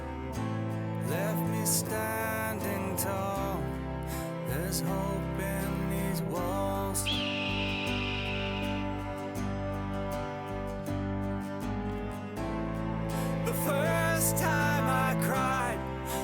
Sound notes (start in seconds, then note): 7.0 hawk call